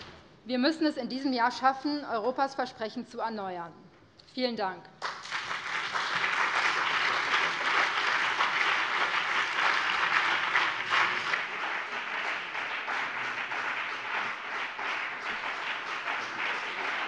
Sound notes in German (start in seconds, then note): 5.0 Beifall BÜNDNIS 90/DIE GRÜNEN und CDU